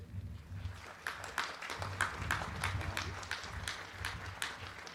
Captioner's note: crowd clapping